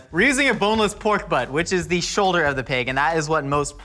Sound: none

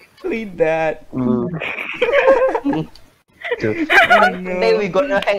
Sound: giggling

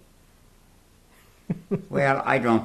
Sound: laughs

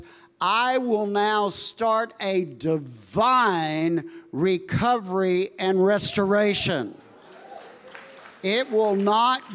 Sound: congregation applauding

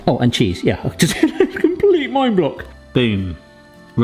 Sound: laughing

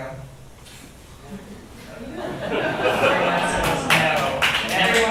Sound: audience laughs; audience claps

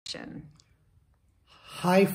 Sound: breathe

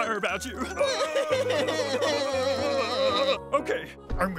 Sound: both sobbing

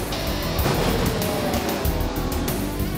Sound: upbeat rock music; car crashing

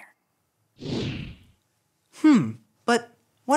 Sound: air whooshing

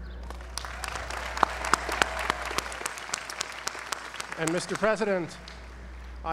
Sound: applause

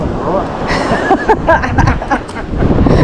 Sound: both laugh

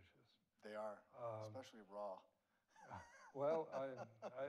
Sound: laughs

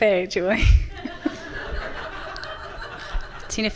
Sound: laughter from the audience

